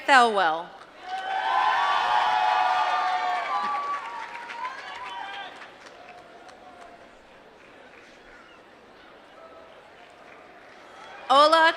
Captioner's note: applause